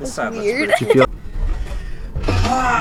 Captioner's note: chuckle; laughter